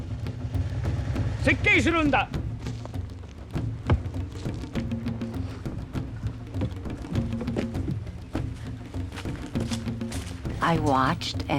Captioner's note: non-english speech